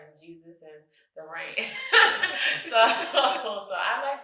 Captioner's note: guffaws